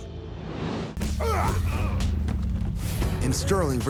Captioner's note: men grunting